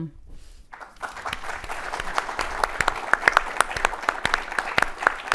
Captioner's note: audience applauds